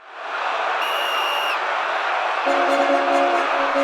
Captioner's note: audience cheering; whistle blowing; lively music